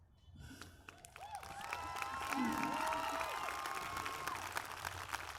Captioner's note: cheers, applause